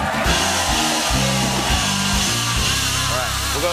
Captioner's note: cheers and applause